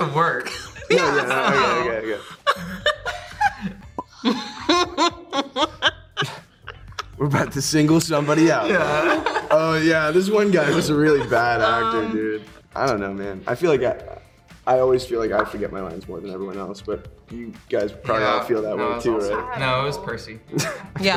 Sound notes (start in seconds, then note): 2.1 laughing; 4.3 majorly laughing